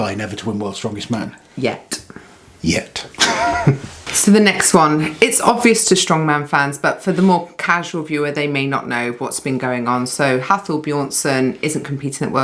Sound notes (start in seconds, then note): 3.1 laughs